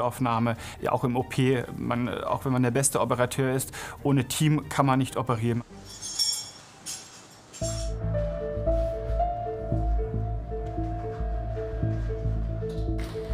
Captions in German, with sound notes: Auch im OP, auch wenn man der beste Operateur ist, ohne Team kann man nicht operieren. (Metallisches Klirren) (Spannungsvolle Musik)